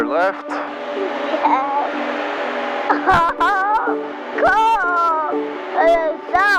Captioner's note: giggling